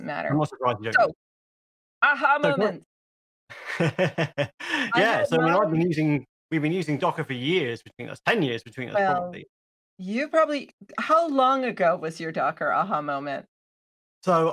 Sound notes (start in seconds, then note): 3.5 he laughs